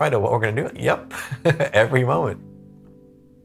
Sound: chuckles

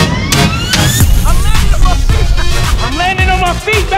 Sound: laughing

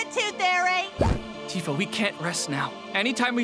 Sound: pop

